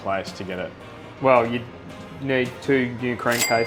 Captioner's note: cash register dings